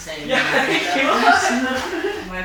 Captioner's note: laughs